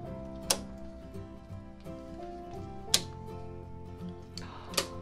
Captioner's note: breaker switch clicking; gasps